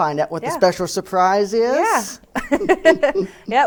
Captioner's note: laughs